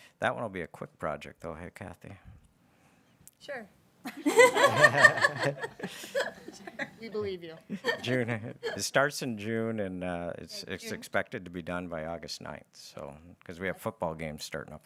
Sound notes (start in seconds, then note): 4.1 everybody laughing